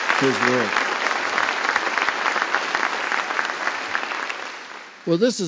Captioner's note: applause